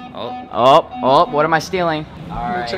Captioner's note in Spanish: suena una alarma